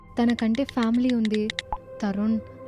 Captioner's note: none